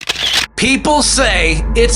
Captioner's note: camera shutters